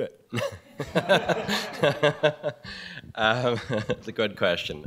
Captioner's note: laughter